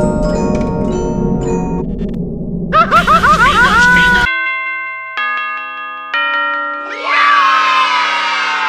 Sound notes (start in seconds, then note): 4.3 ding dong, ding